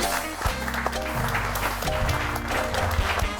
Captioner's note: audience applauding; cool music